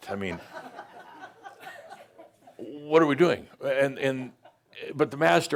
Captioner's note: some chuckles